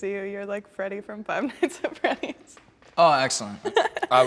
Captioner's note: laughs